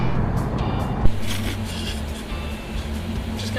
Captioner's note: laughing